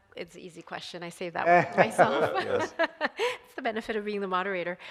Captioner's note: chuckling; laughs